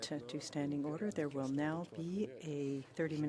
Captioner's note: speaking French